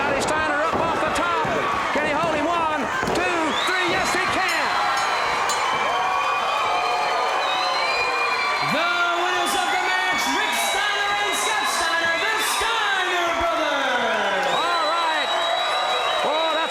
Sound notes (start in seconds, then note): 4.2 bell rings; 4.6 audience cheers